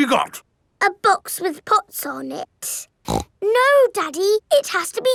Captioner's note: snorts